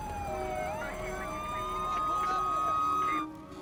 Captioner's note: phone filter speech